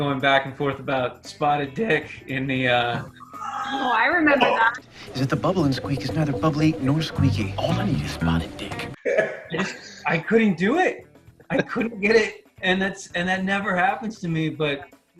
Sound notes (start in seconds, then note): 9.5 laughing